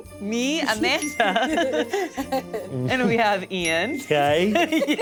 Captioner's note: laughs